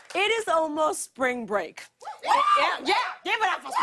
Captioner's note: audience cheering